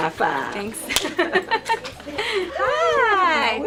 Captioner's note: laughing